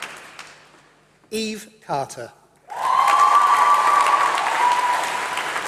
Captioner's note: applause